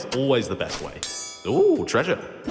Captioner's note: clink!